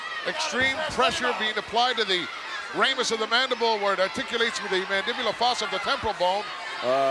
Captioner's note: none